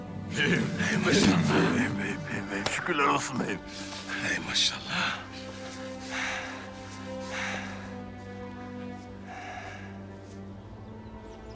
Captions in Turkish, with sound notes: -Beyim, beyim. -Hey maşallah. Beyim, beyim. Şükürler olsun beyim. Hey maşallah. (Derin nefes alıyor)